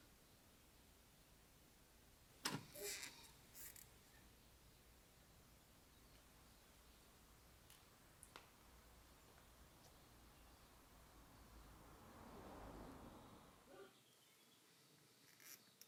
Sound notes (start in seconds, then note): 2.5 squeaking sound